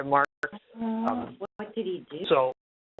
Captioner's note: voice murmuring in the background